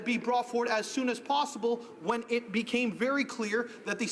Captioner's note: none